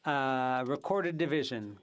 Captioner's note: speaking FRENCH